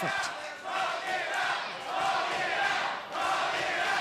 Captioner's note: crowd cheering